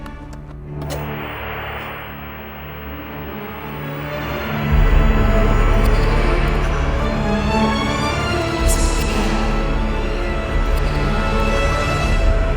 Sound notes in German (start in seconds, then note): 0.8 TV-Rauschen